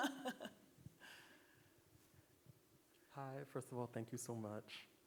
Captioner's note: laughing